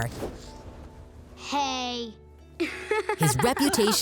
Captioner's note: laughing